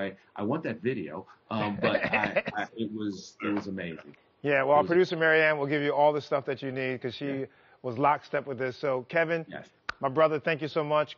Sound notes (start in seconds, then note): 1.7 laughing